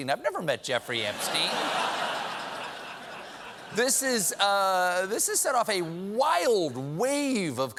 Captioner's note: laughter